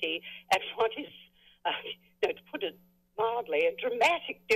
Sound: laughs

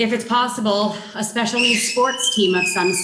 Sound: child shrieking

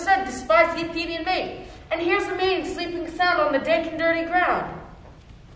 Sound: none

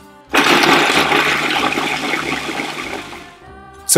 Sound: grinding

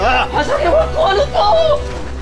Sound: some japanese

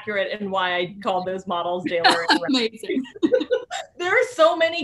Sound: laughing

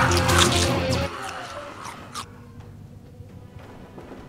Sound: zombie munching

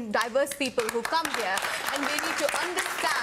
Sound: audience applauds

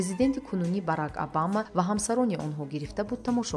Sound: journalist narrating in tajik

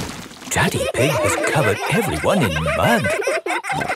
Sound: all laughing

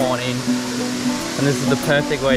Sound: insects call; water splashes

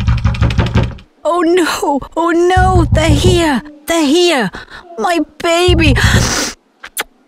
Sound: sniff

